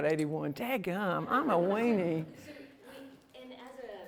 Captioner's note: laughter